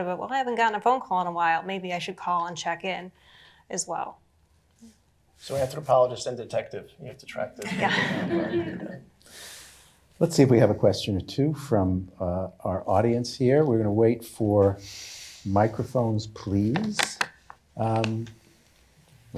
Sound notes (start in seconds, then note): 7.6 laughter